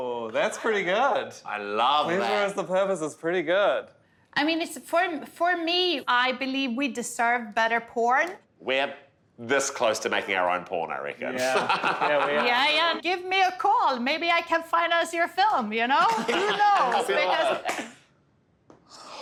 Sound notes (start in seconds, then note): 16.0 laughing